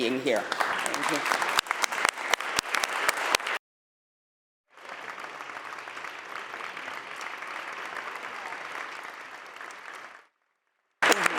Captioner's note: applause